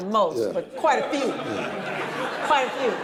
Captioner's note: audience laughing